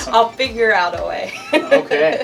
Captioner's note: laughs